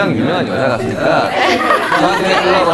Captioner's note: hahahaha